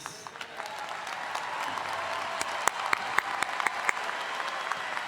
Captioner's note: all applauding